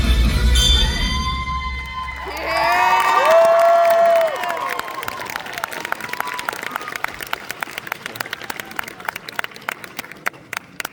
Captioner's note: applause